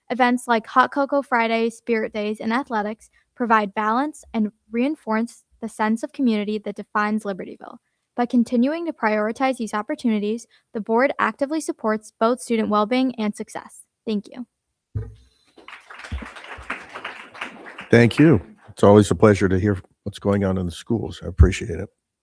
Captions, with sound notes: Events like hot cocoa Fridays, spirit days and athletics provide balance and reinforce the sense of community that defines Libertyville. By continuing to prioritize these opportunities, the board actively supports both student wellbeing and success. Thank you. (crowd applauding) >>Thank you. It's always a pleasure to hear what's going on in the schools. So I appreciate it.